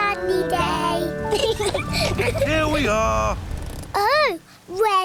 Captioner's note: both laugh